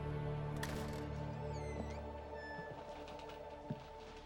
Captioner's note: door creaks